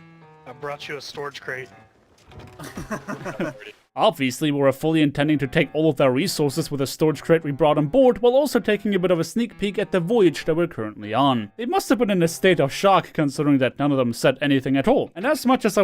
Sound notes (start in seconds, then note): 2.5 collective Devious Laughter